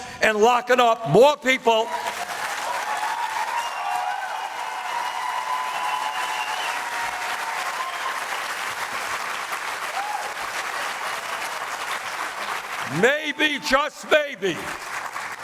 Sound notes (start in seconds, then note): 4.1 applause